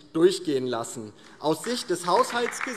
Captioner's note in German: Beifall DIE LINKE